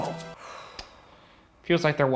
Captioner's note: sighing